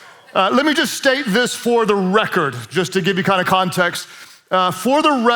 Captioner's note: congregation cheers